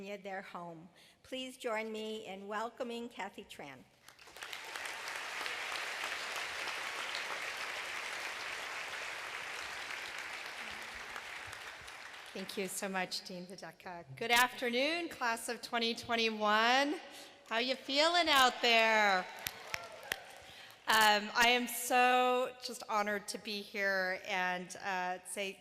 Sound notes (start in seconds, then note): 4.0 applause